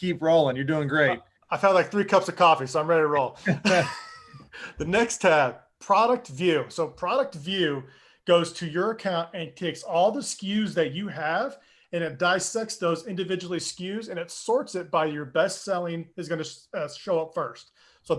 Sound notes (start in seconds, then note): 3.3 laughing together